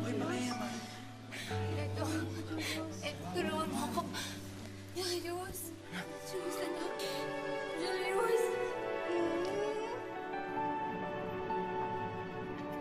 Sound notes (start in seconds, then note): 0.1 people murmuring; 9.0 Claire whimpers